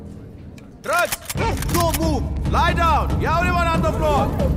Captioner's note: Gun cocks